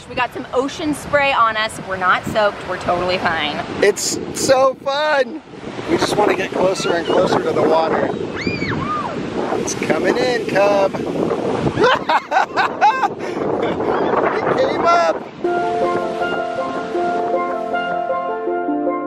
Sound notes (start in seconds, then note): 8.0 kids squealing; 11.7 laughing